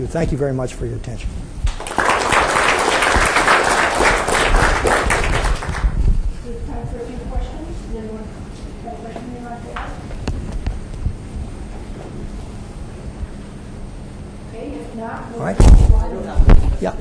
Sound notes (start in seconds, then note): 1.6 audience clapping